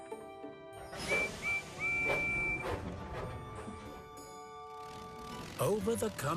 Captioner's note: toot-Toot-Toot!